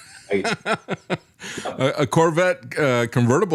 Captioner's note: laughs